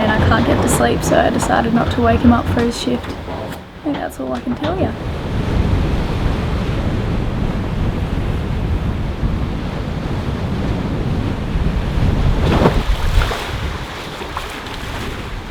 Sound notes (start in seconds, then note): 5.6 wind rushing; 12.0 water splashing